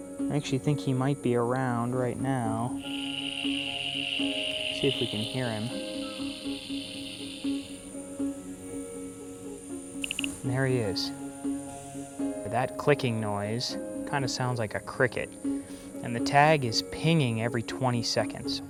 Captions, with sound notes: I actually think he might be around right now. Let's see if we can hear him. [Click] And there he is. That clicking noise kind of sounds like a cricket and the tag is pinging every 20 seconds